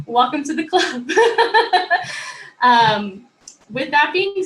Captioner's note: chuckling